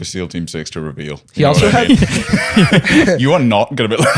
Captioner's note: laughter